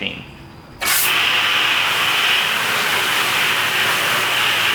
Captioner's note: water spraying